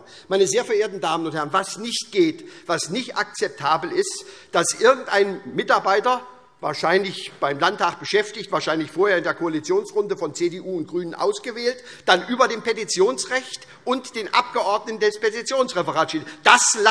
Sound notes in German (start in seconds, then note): none